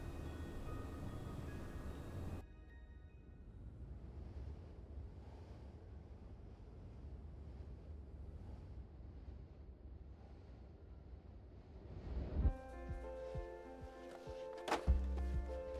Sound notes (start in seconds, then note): 0.0 music fades; 7.7 wind blowing; 12.5 hopeful piano music playing